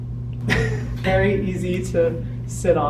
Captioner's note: chuckles